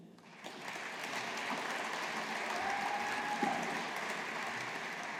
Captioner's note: audience applauding